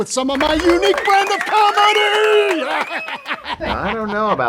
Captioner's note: laughs